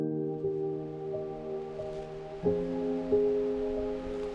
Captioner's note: water flowing